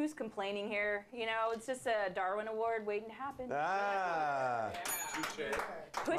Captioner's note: bell rings